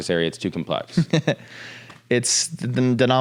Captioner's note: laughs